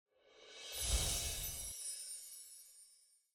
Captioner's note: magical tinkling